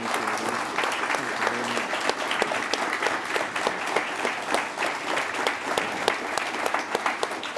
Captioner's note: applause